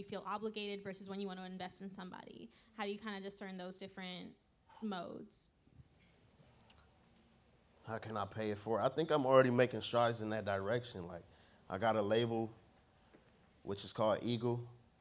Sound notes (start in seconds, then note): none